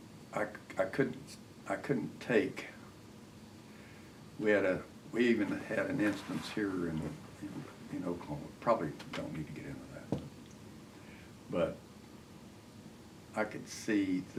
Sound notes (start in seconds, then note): none